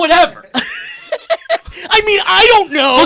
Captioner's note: laughing